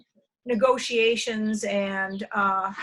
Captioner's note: none